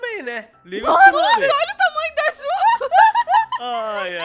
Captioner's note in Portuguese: Risadas